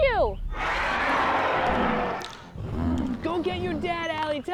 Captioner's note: riverbeast roars